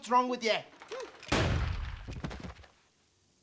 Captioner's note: gunshot; thud